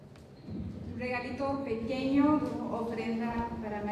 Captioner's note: non-english speech